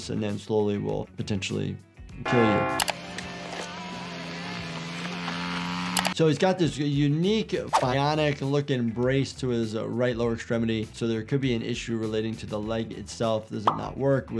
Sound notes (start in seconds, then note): 2.3 airplane buzzing